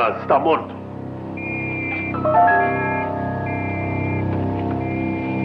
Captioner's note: whistling Resumes